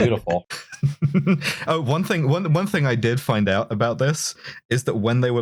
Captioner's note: laughter